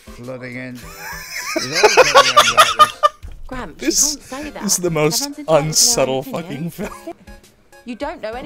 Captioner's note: wheezing laughter